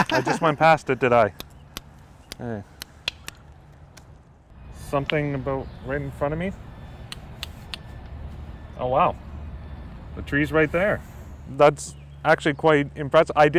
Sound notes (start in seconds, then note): 1.8 clicking